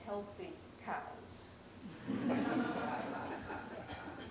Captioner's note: laughter